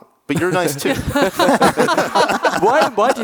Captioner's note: all laughing